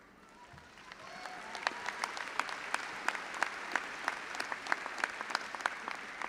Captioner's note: all applauding and audience cheering